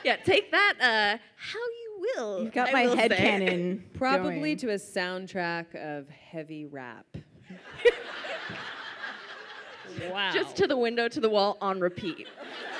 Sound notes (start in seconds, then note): 7.6 audience laughs